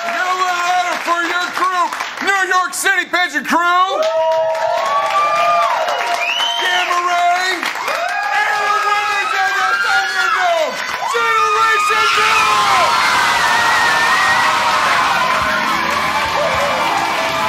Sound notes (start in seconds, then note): 4.2 louder applause & cheers; 12.9 screaming cheers and applause